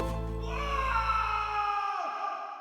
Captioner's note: shriek